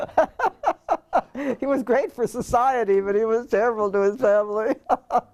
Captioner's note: laugh